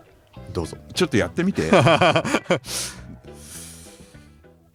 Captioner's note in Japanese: 笑い